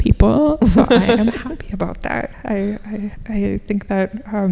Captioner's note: laughing